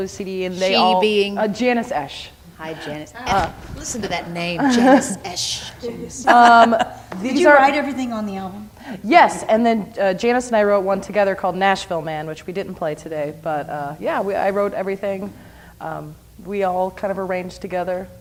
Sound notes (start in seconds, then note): 4.6 chuckles